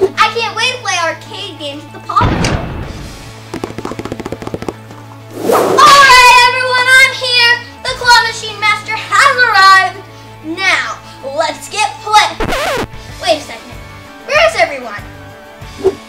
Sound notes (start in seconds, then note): 2.6 door bangs; 3.3 footsteps pattering; 5.3 whip lashes